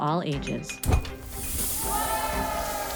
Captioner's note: object clinks; air whooshing; students cheering; bright music